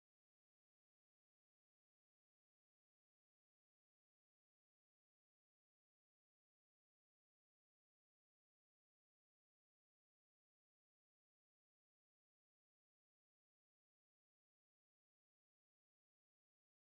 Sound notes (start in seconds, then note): none